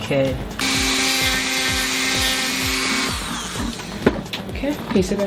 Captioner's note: sanding tool buzzing